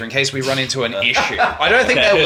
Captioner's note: laughing